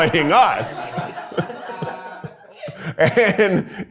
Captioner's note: everyone laughs